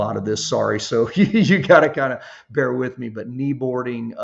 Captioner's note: chuckles